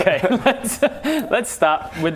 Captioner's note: slightly deranged giggle